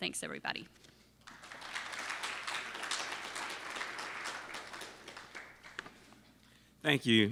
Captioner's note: applause